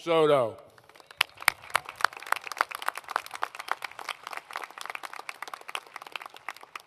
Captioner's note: applause